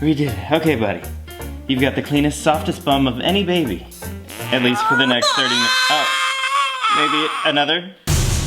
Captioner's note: toot